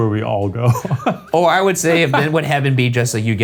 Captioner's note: laughing